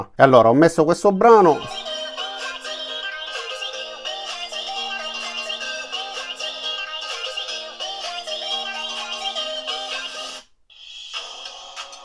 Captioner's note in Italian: Applauso